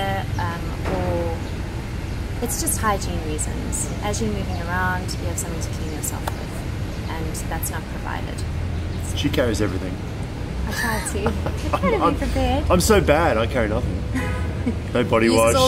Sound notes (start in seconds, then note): 10.7 laughing